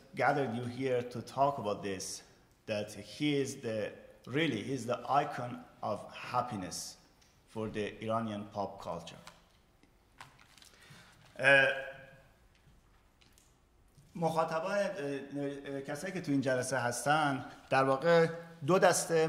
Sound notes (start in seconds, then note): 14.1 speaking in farsi